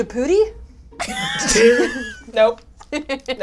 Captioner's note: all laugh